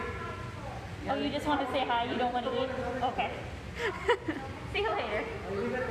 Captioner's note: laughs